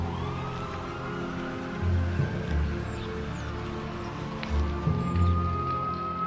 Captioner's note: siren wailing; tense music